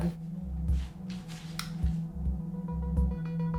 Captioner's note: switch clicking